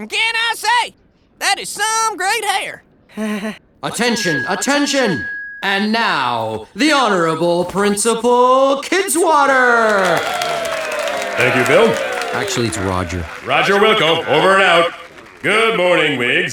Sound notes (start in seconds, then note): 2.0 sheepish chuckle